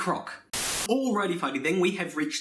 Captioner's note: Static